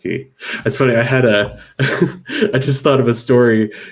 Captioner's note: laughs